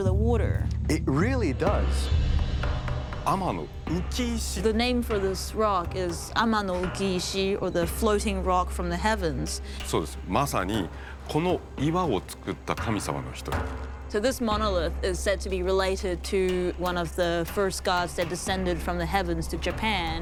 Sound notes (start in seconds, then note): 2.2 speaking Japanese; 9.0 speaking Japanese